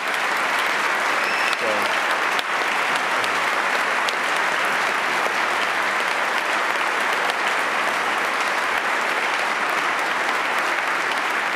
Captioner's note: applause